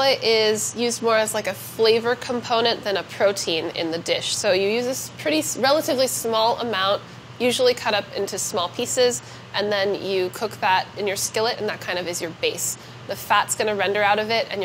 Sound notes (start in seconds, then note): none